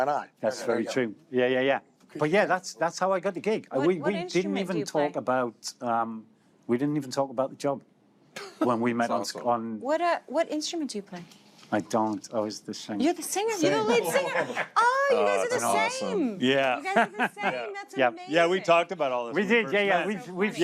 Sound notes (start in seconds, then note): 8.5 chuckles; 14.0 laughter